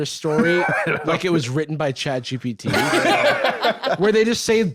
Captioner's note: others laughing